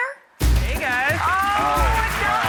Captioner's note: audience applauds